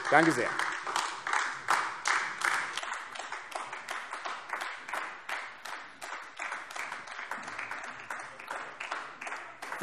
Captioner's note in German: Beifall AfD